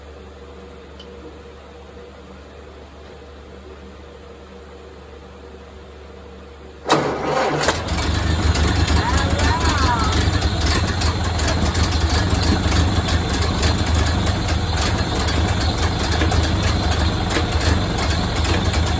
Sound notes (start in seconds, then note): 6.8 engine cranks a few times and fires up; 7.8 engine idling